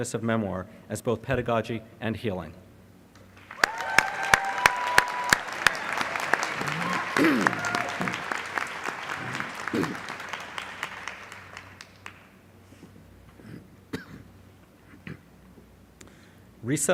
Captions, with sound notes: of memoir as both pedagogy and healing. [ Applause ]